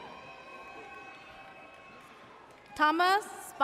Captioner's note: audience cheers